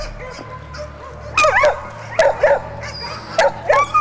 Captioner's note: dogs barking